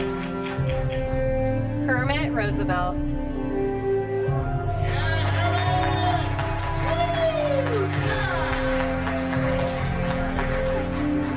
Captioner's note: applause